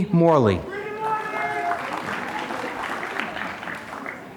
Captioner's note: applause